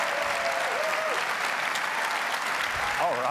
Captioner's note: applause